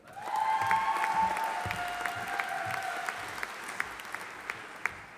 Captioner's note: audience applauding